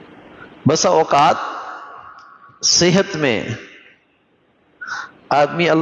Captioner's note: clears throat